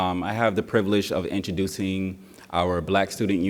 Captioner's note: none